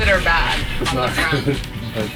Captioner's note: laughing